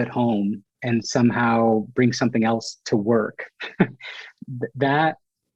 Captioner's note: laughs